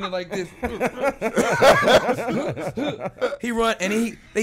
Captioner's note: laughing